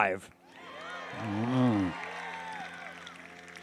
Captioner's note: applause